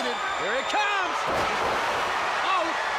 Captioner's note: crowd cheering